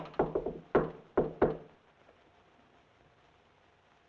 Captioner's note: fist rapping